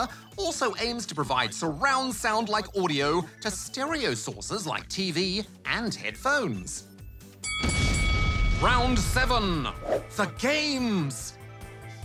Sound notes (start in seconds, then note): 7.4 bell dings